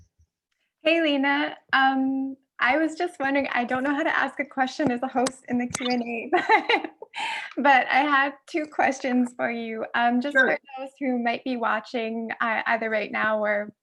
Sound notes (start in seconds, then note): 5.8 laughs